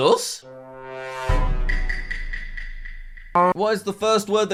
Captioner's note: Among Us meeting sound